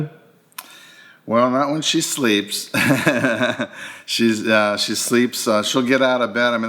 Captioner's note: laughing